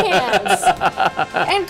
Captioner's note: laughing